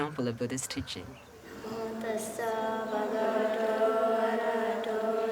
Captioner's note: all chanting softly